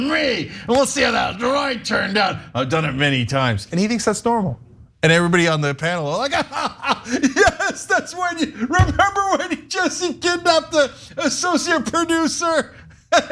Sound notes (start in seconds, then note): 6.2 laugh